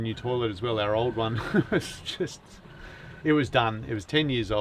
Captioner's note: laughs